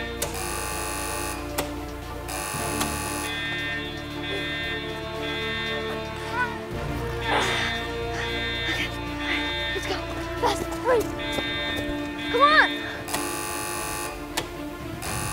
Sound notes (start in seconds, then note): 0.0 box buzzing; 3.2 sirens sounding; 7.1 grunting; 13.1 buzzing